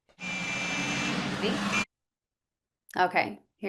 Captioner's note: car honking